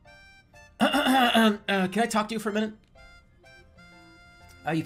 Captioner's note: clears out throat